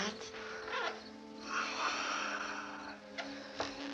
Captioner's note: sighs